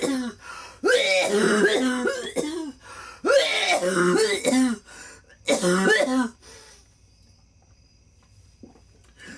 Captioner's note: coughs